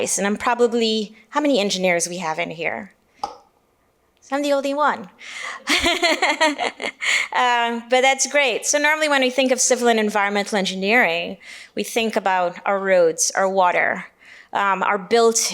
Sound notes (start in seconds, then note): 5.6 laughs